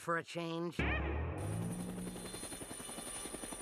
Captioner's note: whirring